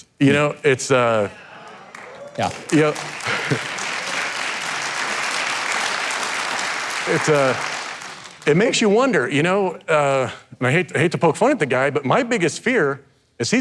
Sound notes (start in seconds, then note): 1.3 audience cheering; 1.4 audience clapping